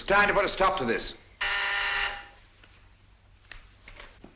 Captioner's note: buzzer